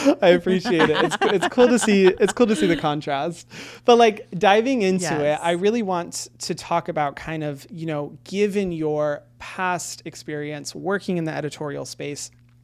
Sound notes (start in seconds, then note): 0.0 laughs; 0.1 everyone laughing